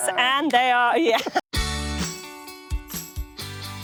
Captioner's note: chuckles